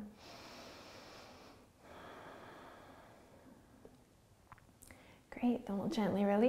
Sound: breathing

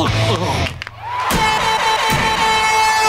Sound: groaning; buzzing

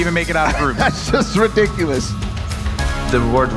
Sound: laughs

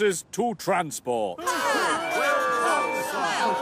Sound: engines cheer and whistle

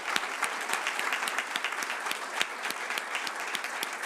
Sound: applause

